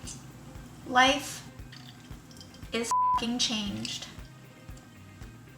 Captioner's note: beep